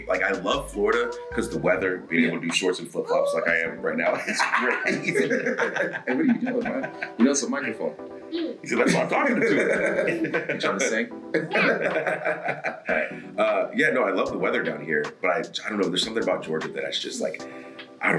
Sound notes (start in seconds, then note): 11.0 laugh